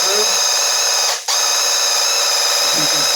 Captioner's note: paint gun blasting